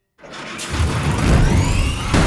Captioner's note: engine starts